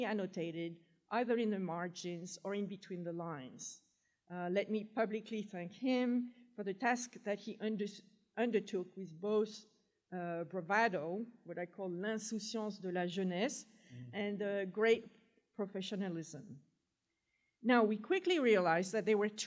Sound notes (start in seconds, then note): 12.5 french